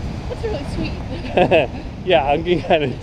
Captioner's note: chuckles